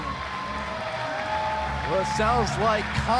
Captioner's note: crowd cheering